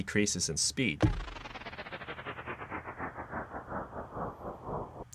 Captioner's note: electronic whirring